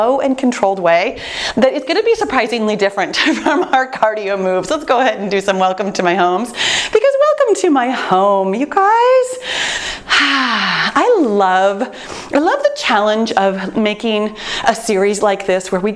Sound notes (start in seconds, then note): 2.9 chuckles; 9.4 exhales sharply